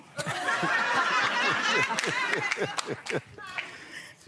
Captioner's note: audience laughing